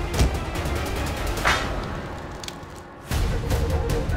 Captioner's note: fire crackling; pensive music playing